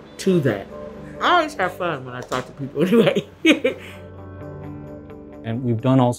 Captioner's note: chuckles